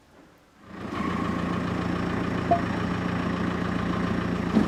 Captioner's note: engine purring